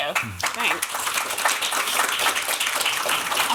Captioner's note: applause